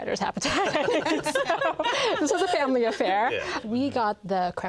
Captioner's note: all laugh